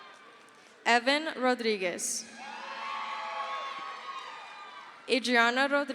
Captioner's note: crowd cheers; crowd cheers